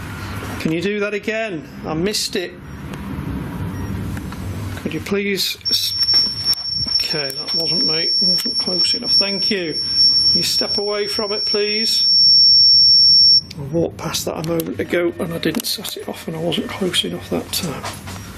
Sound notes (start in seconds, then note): 9.7 high pitched beep